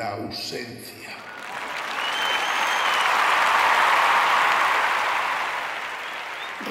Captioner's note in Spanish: Aplausos, ovación